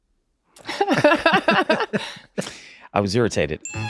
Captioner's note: everyone laughs